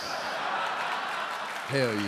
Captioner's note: audience laughing and clapping